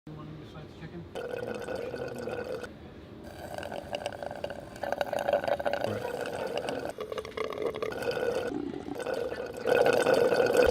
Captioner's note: sound of people slurping through straws